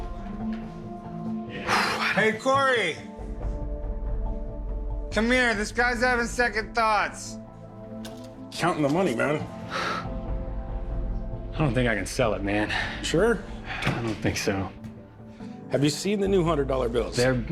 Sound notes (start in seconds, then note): 1.4 huffs